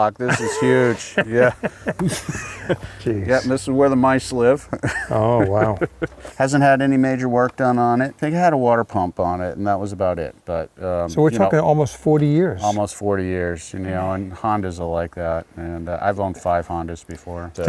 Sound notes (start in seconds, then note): 0.2 laughs